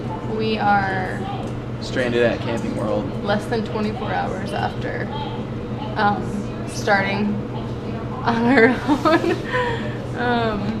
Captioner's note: laughing